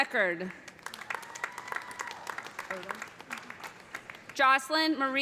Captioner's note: cheers and applause